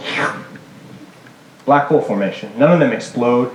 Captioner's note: whirring sound